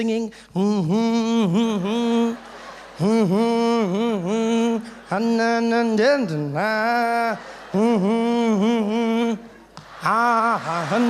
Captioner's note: Jacob humming and dancing